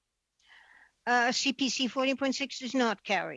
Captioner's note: speaking French